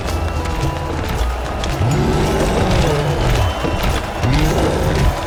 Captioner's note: crowd cheering; cyclops roars